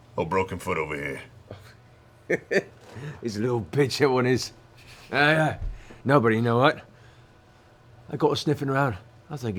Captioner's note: laughs